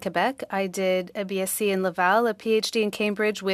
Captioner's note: speaking French